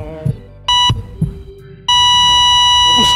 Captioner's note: machine beeps